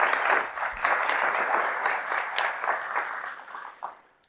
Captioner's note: applause